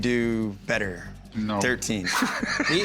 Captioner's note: laughs